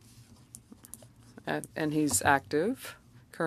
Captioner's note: speaking French